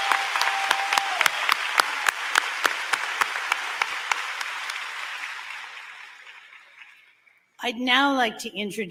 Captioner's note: applause